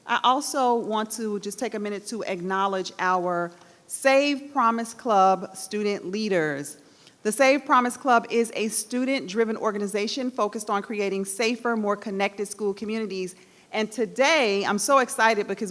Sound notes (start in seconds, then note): none